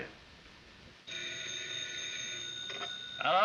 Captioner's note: phone rings